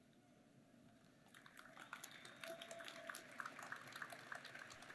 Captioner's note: applause